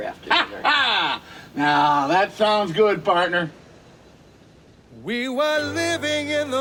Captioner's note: laughs